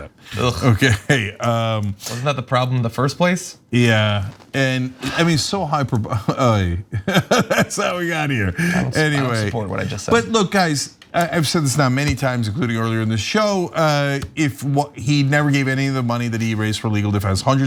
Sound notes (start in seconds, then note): 5.8 laugh